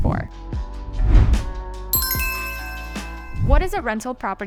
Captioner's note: text ringing; cheerful music